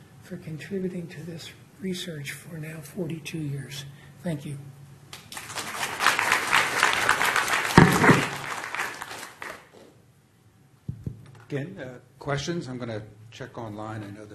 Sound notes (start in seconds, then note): 5.1 applause